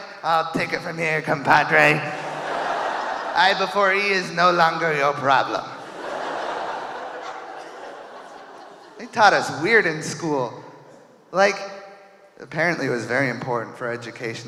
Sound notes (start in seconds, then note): 1.9 audience laughing; 5.7 audience cheering